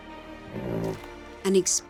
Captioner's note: rhino grunts